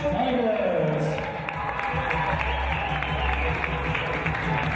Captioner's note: cheers and applause